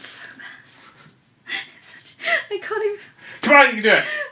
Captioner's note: laughing